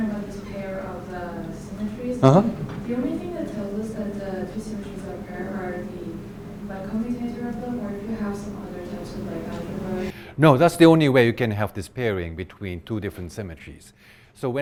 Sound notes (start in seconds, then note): 6.4 speaks faintly